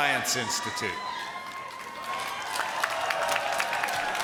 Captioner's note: applause